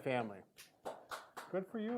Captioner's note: clapping